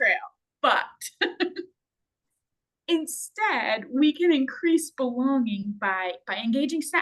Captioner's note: laughs